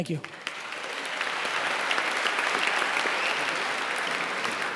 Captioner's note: applauding